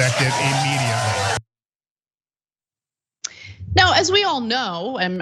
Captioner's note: applause